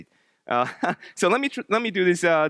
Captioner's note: laughs